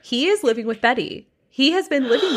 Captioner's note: gasps